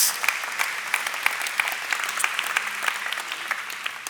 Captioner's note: applause